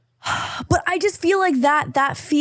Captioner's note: sighs